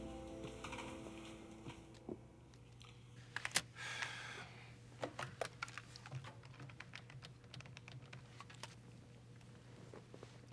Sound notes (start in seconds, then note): 3.8 sighs